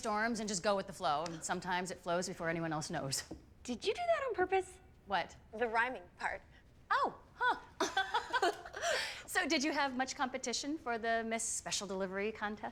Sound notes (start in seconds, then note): 7.8 laughing